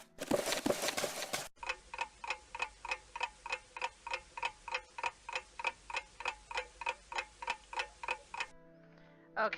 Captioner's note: ticking clock